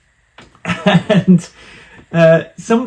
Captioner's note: laughs